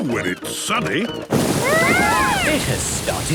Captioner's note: shouting